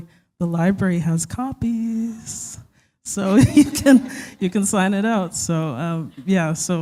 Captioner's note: chuckle